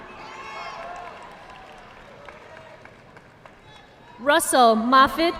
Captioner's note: audience clapping